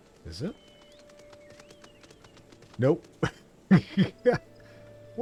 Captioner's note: laughs